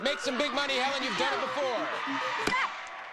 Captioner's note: audience cheering